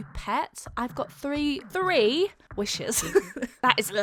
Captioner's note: laughs